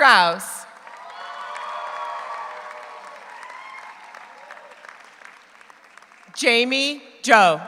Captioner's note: audience applauds; audience cheers